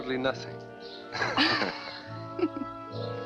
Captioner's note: laughing